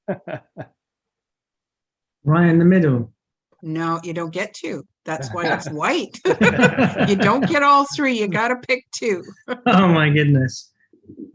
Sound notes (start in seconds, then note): 0.0 laughs; 5.1 all laugh